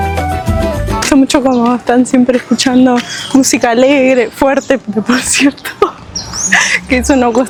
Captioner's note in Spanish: risas